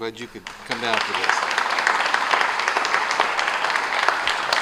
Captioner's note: applause